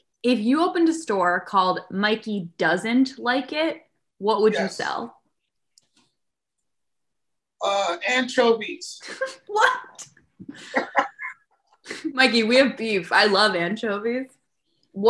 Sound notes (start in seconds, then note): 10.4 laughing